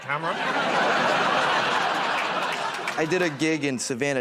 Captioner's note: laughter